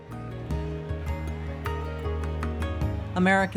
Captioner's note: crowd cheering